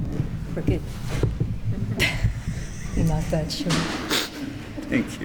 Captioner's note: chuckles